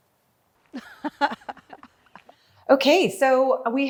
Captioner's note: laughing